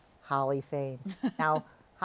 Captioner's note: chuckles